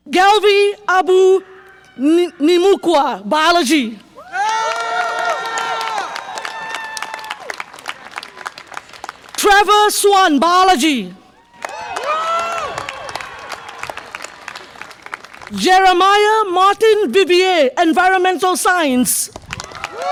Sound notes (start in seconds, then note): 4.1 audience applause and cheer; 11.4 audience applause and cheer